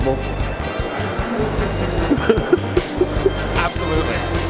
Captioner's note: laughing